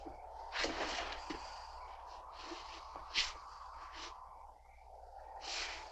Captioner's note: wind continues whooshing